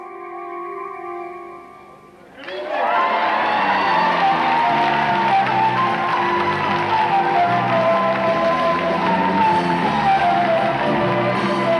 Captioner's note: audience applauding